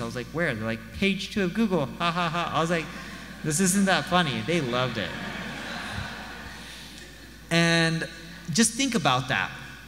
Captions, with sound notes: I was like, "Where?" They're like, "Page two of Google, ha ha ha." I was like, "This isn't that funny." They loved it. (audience laughs) And just think about that.